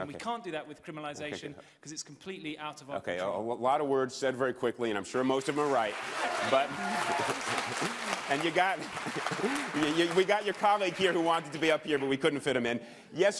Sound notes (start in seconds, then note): 7.0 applause